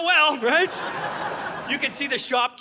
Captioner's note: audience laughing